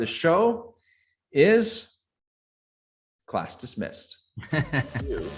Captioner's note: laughs